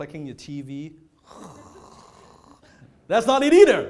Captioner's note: snoring